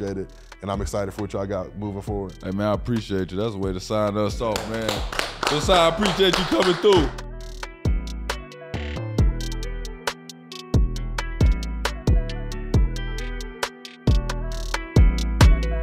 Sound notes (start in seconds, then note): 4.5 group clapping; 7.5 hip hop music playing